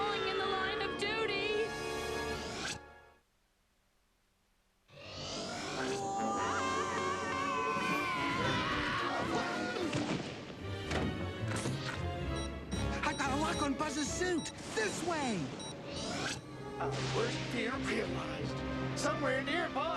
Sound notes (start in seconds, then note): 7.3 all screaming; 12.3 beeping